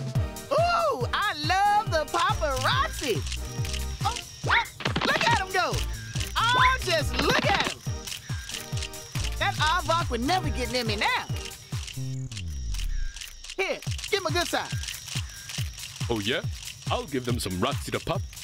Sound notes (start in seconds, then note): 2.4 camera clicks